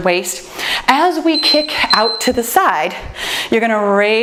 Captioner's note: timer beeps